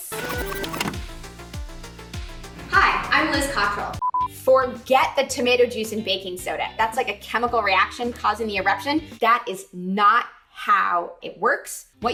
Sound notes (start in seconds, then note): 0.2 upbeat music; 4.0 screen beeping